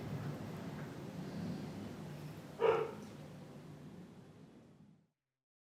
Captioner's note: dog barking